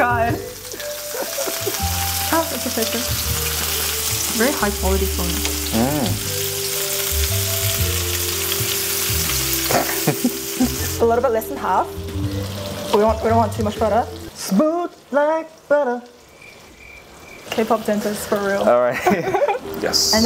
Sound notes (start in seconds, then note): 6.8 steak sizzling; 16.1 crickets chirp